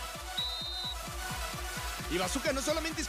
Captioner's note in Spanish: silba